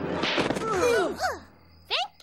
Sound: snap, grunting

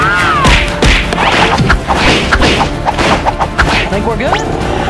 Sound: cartoon swiping

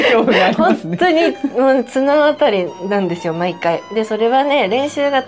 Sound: laughs; laughs

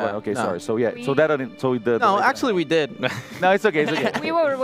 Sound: laughs

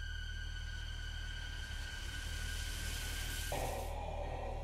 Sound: car engine humming

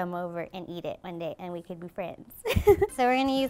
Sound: laughs

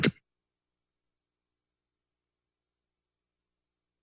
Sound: silence

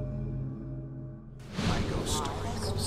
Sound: dramatic music playing; collective voices

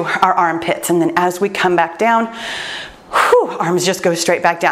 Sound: sighs

